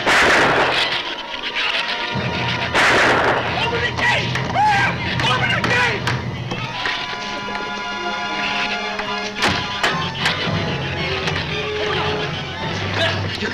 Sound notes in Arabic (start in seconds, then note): 0.0 ثرثرة الزبابة; 0.2 إطلاق نار; 4.5 يصرخ; 9.3 تغلق البوابة; 9.6 ثرثرة الزبابة